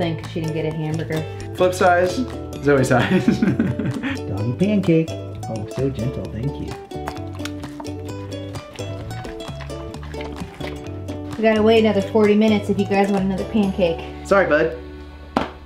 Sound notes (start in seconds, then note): 3.0 chuckling; 8.3 dog chewing